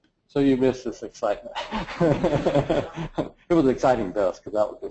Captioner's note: laugh